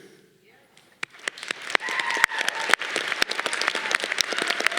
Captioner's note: audience applause